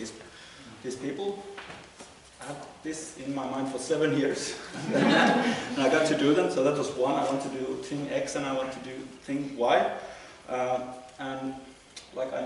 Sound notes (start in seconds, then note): 4.6 laughter